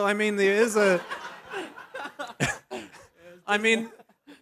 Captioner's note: laughs